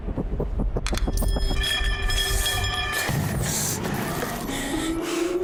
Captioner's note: coins chinking